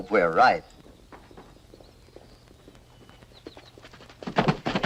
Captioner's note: horses trotting